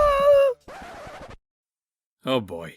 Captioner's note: goo screams; record scratch